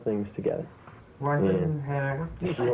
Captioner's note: laughter